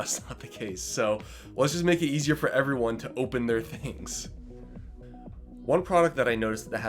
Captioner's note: laughter